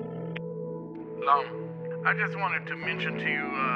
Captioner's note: line rings, clicks